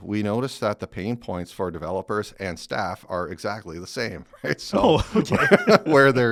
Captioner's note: laughs